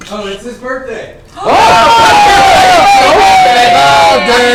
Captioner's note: cheering